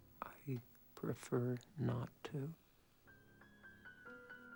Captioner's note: whispers